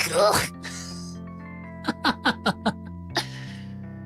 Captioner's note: laughs